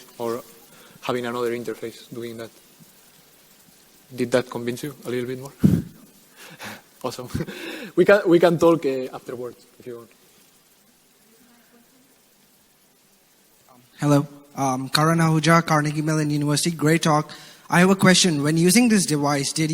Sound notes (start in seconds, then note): 7.3 laughs